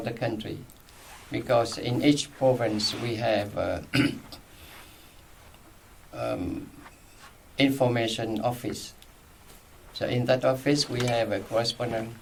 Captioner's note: clears throat